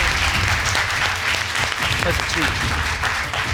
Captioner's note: audience applauding